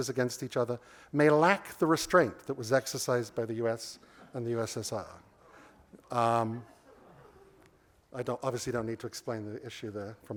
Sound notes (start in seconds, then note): 6.6 laughter